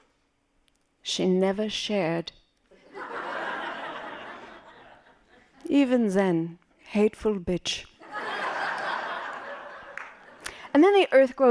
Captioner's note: laughing